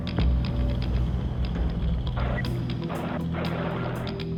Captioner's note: radio noise